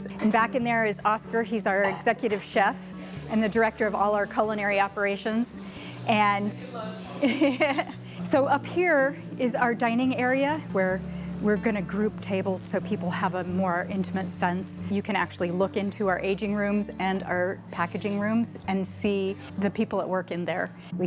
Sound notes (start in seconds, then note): 7.0 laughs